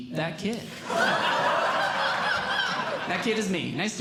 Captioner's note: audience Laughing